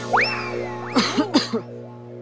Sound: clears throat

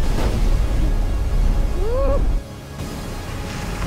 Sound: muffled grunts

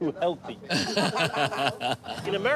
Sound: laughs

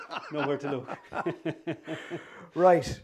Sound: laughter

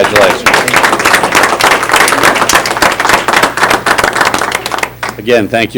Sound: applause

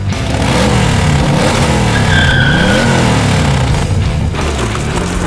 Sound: motorcycle revving; rock music

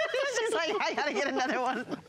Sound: laughter

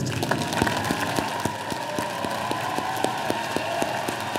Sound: audience applauding

